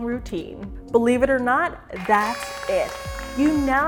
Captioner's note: crowd cheers